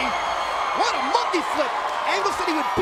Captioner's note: crowd cheering